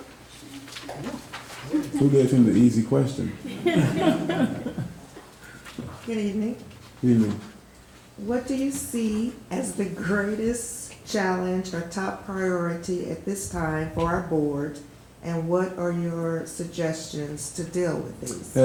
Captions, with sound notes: - I got the short question. - Who gave him the easy question? (all laughing) - Good evening. - Good evening. - What do you see as the greatest challenge, or top priority at this time for our board, and what are your suggestions to deal with these?